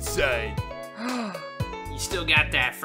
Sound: Album gasps

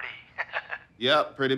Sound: Carlos chuckling

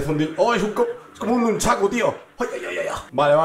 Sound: ninja sounds

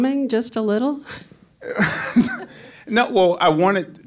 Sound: laughs

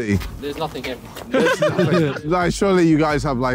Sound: all laughing

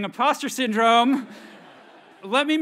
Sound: audience laughs

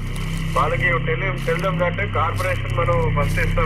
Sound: walky talky

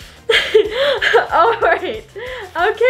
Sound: laughing

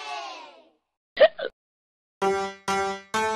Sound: hiccup

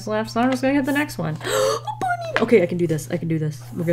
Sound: gasps

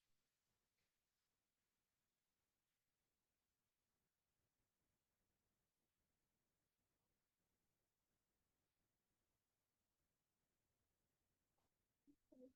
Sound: audio cuts out

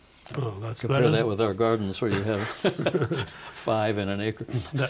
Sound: laughing

